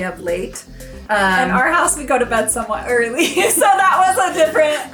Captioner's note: laughs